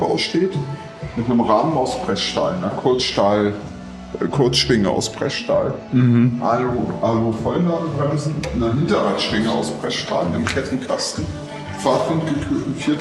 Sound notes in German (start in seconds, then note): none